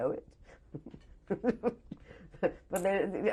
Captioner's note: laughs